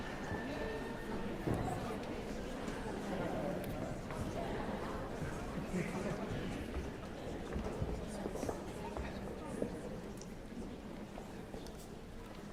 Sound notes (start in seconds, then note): none